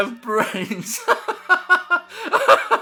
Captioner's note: laughter